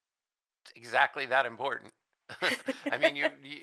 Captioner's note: laugh